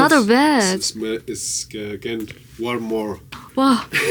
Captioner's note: fireplace